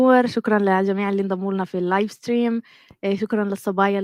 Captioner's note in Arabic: لغة أجنبية